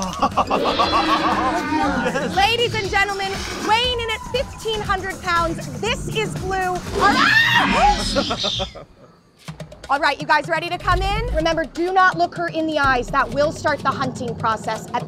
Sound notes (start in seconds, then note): 0.0 laughs; 6.9 Blue roars; 7.0 team Member screams